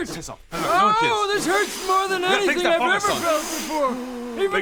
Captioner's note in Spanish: soplando